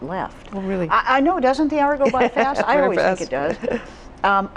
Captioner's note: laughs